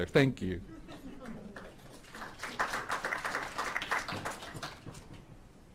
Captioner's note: audience chuckling and applauding